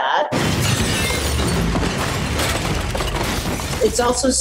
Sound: glass shattering

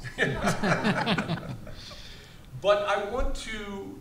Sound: all laughs

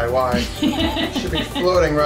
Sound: laughing

